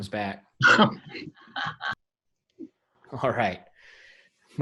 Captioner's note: all laughing